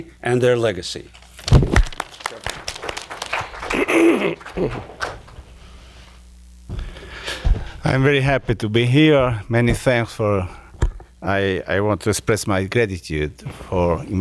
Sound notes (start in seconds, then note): 1.4 attendees applauding; 1.7 clearing throat